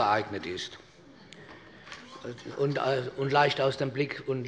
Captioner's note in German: Heiterkeit des Abg